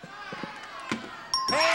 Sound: bell pings; audience cheering

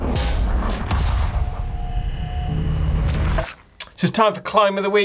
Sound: percussive rumbling

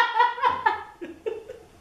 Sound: laughter

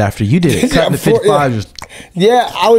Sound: imitates chewing

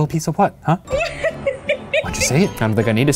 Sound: laughing

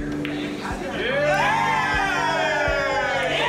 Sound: cheering

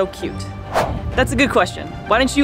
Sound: whooshing sound effect

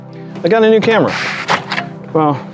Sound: cargo cover slides open

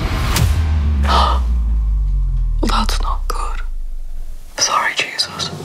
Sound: gasps

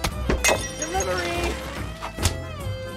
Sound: vase crashes

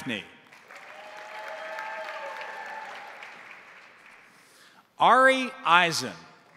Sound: crowd applauding; crowd cheering

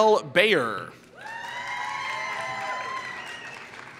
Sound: applause

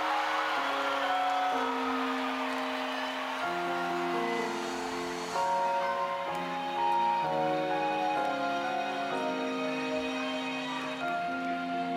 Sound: applause

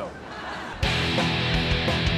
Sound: crowd laughs; rock 'n roll music

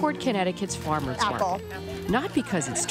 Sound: bag rustling

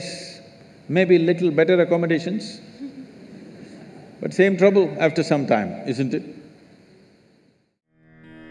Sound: laughter

